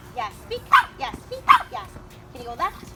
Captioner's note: bark